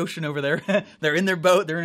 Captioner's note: laughs